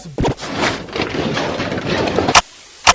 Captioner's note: knocking items on shelves down